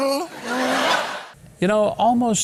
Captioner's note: audience laughing